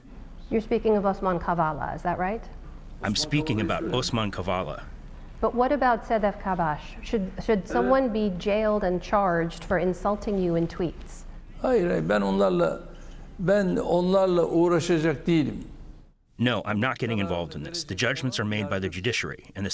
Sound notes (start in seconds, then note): 3.2 through translator; 13.7 through translator